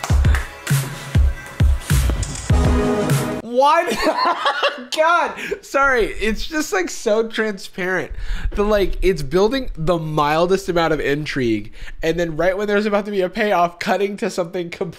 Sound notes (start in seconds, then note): 3.8 laughs